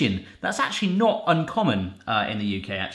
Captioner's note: none